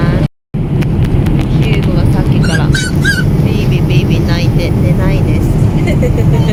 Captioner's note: laughs